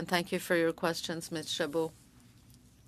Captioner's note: speaking French